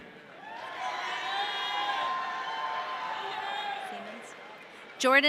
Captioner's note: audience cheering